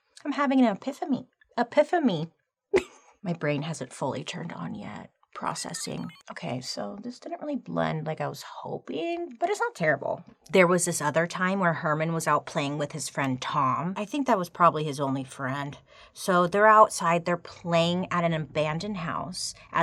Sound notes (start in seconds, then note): 2.7 giggling